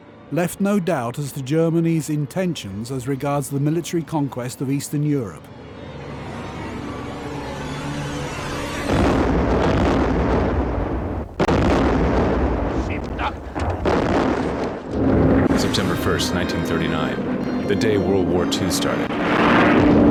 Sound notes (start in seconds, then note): 8.8 explosions booming